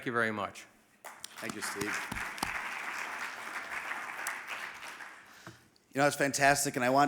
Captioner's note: audience applauding